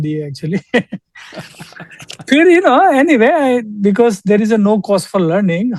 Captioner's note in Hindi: हंसी